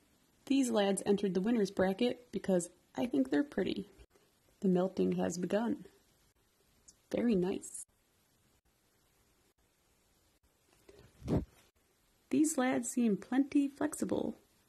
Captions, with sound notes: these lads entered the winner's bracket because I think they're pretty the melting has begun very nice *woosh* These lads seem plenty flexible